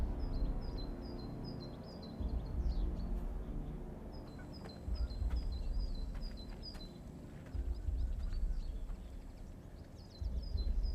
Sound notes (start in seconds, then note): 0.0 birds chirping; 0.0 gentle tense music